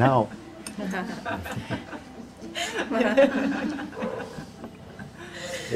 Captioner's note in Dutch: gelach